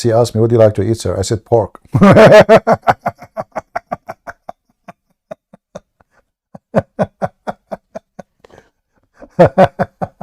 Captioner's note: Ketawa